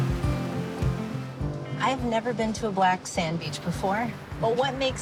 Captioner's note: waves crashing